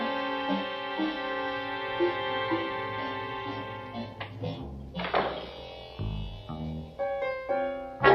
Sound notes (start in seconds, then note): 4.9 door closing